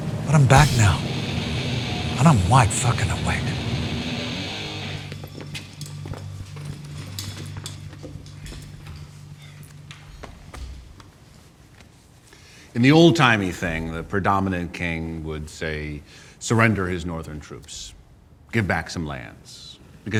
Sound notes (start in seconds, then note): 5.2 chairs rattling; 5.2 footsteps rustling